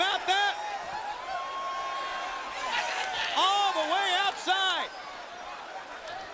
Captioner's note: applause